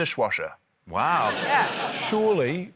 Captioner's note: laughter